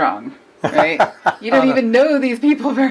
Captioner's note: man laughs